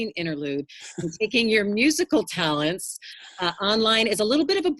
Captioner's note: laughs